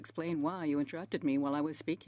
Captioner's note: speaking French